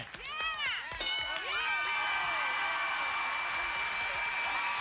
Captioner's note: cheers